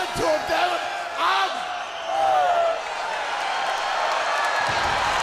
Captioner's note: crowd cheering